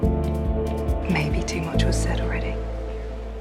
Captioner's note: voiceover